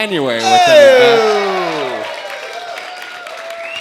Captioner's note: cheering